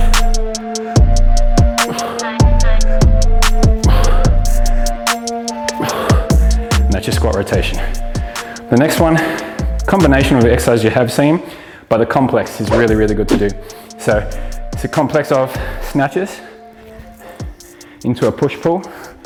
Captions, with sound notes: (exhales deeply) And that's your squat rotation. The next one, combination of the exercises you have seen, but a complex is really, really good to do. So, it's a complex of snatches, into a push pull,